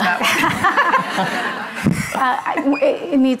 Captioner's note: audience laughing